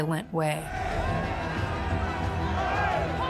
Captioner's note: crowd yelling